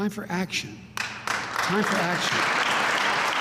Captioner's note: applause